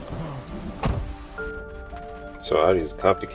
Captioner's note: thunder and rain